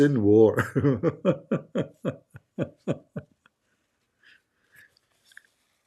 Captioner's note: Ketawa